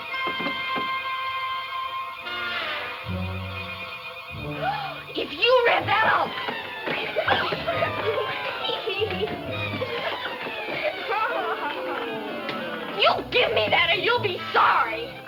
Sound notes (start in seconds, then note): 6.8 dramatic music; 8.7 laughs